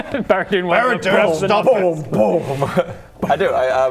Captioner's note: boom boom boom